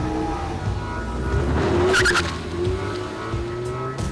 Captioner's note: tires squeal